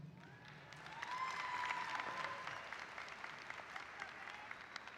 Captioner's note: audience applauding